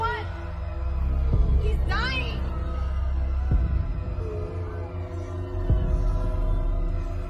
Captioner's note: people screaming